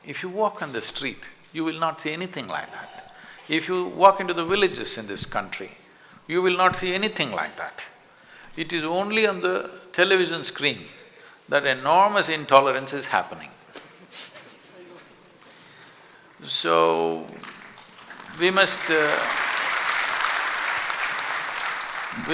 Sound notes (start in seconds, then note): 17.4 applause